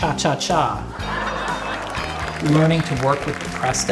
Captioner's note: audience laughing